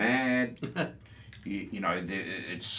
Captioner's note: chuckles